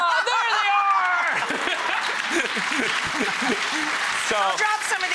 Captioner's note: applause and laughter